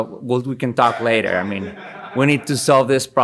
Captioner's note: attendee laughing